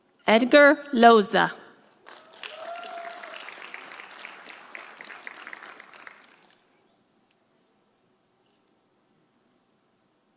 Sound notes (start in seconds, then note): 2.0 audience applauding; 2.1 audience cheering